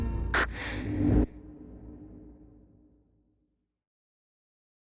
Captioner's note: quick inhale of oxygen